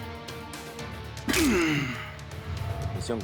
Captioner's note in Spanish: Ruido al cortar el cable